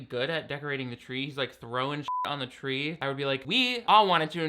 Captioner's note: beep